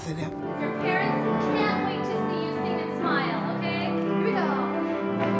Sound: conductor speaking

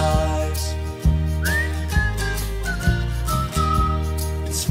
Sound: whistling

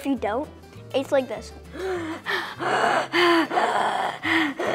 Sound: hyperventilates

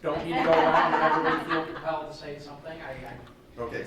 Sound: laughing

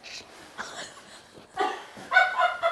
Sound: laughing; female Team Members laughing

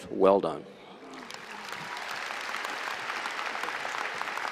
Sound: applause and cheering

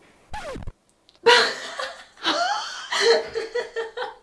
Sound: record scratching; laughing; laughing continues

